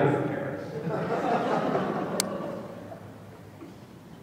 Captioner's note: laughter